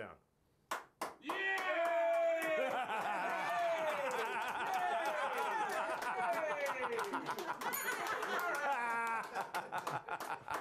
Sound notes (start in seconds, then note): 5.7 applause